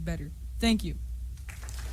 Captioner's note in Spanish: aplausos